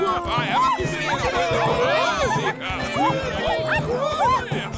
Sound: all yell excitedly

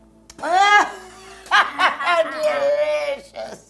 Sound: cackling

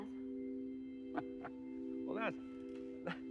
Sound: chuckling

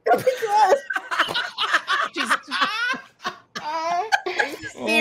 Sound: all laughs

